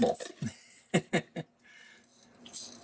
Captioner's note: laughing